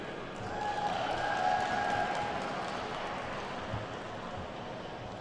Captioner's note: attendees whooping and clapping